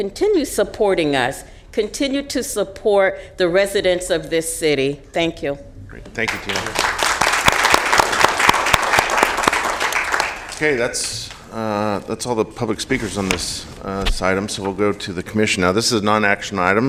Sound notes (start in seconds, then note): 6.2 applause